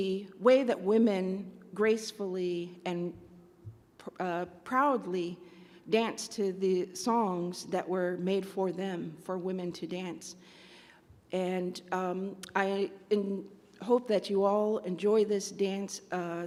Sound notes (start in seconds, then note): none